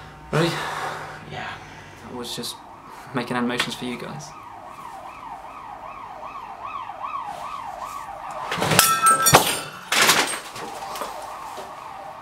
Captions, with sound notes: - Ready. - Yeah. - Was just making animations for you guys. (siren blaring) (glass smashing)